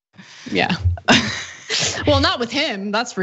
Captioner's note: laugh